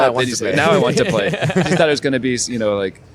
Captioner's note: laughter